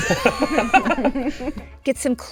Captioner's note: laughing